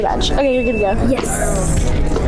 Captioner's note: music and nat sound up full; bell ringing sound effect